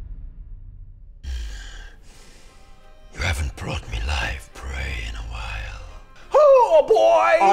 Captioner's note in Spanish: Gruñido